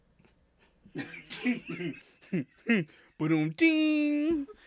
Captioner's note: laughing